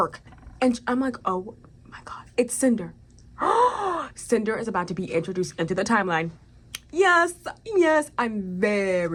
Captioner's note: gasp